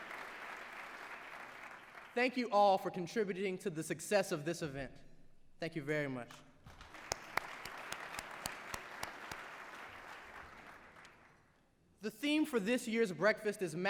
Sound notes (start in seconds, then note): 6.6 applause